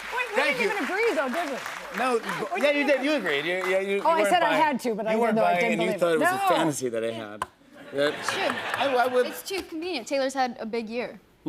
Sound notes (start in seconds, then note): 7.8 laughter